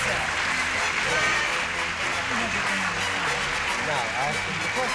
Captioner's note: chatter